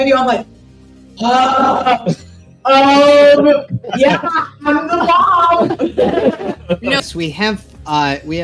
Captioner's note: laughing